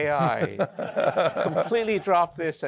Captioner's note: laughter